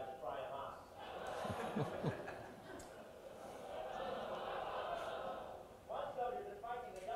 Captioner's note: audience laughter